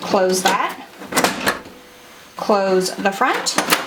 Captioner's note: lid thumps